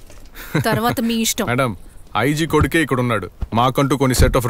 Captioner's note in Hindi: हंसते हुए